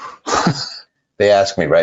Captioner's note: laughing